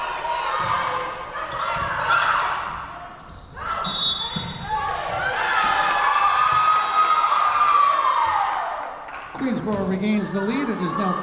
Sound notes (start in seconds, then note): 3.8 whistle blowing; 4.6 Tigers cheering